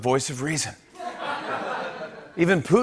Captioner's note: laughter